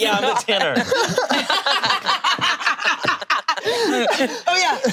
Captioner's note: group laughing